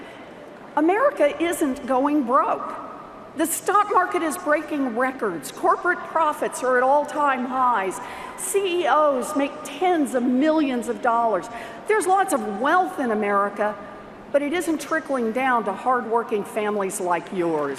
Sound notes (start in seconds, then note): none